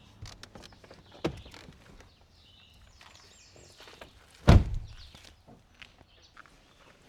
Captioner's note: birds chirping